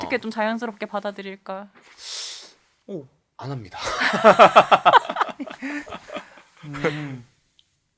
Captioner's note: laughs